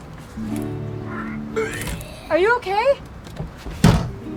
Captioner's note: vomiting sounds